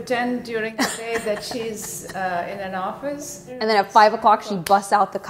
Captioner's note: laughing